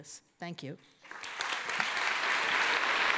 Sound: applause

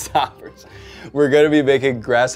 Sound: laughs

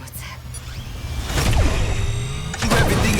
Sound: powering up; beeps

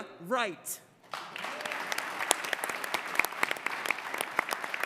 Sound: applause

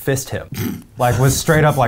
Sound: laughs

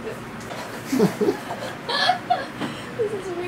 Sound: laughs

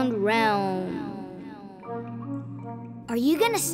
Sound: echoing

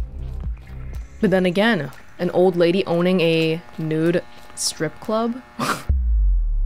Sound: snickers

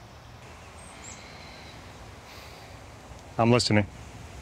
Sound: sigh

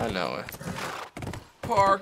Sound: horse brays

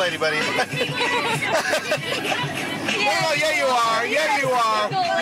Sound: laughs

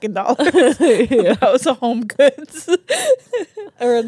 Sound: laugh

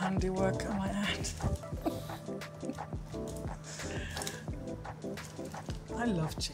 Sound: upbeat music; laughing

